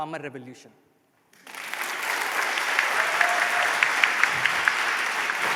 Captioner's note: applause